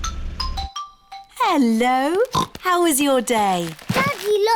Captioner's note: oinks